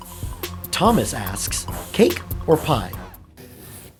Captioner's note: voiceover